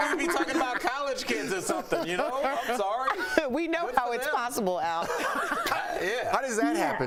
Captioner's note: laughter